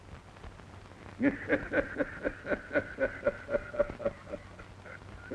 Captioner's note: Carlos laughs